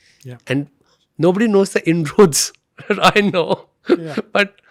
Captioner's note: chuckles